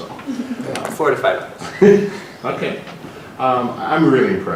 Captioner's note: laugh